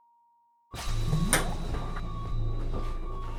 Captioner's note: eerie silence; breaking out of stopped time noise